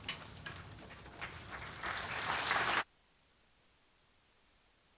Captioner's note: audience applauding